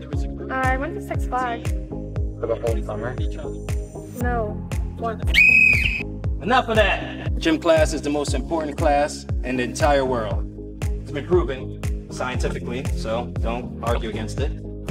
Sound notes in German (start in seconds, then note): 5.3 pfeifen